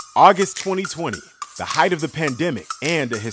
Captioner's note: voiceover